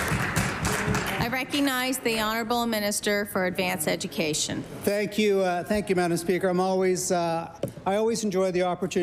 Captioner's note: applause